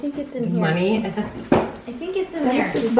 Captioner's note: chuckling